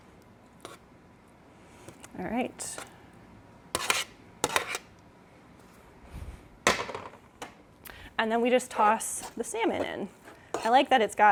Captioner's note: scraping, baking pan clatters on counter